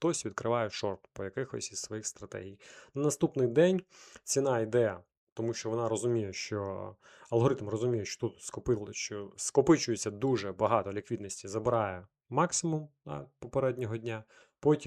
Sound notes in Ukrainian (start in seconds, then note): 4.4 сопіння